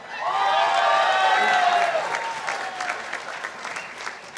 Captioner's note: participants applauding